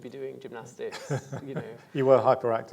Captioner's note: laughing